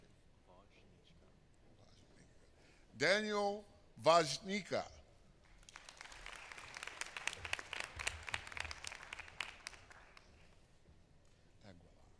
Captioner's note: applause